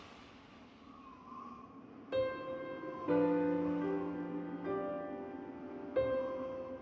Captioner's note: wind blows; soft music